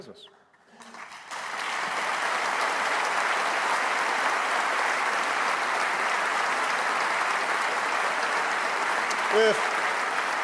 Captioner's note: applause